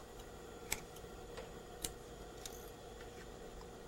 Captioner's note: sewing machine; scissor cutting thread